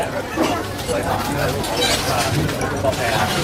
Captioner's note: chatter